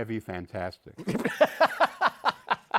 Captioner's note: laughs